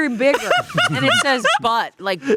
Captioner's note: laughing